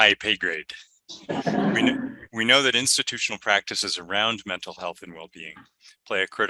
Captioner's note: laughs